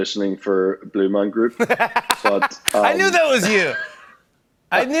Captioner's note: laughs